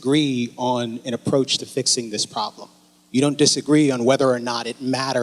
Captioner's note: none